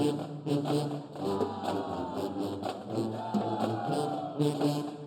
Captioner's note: band cheering; upbeat band music continues